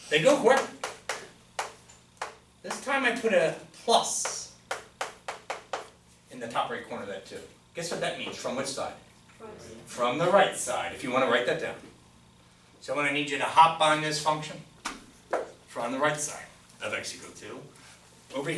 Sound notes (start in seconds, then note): 9.4 voiceover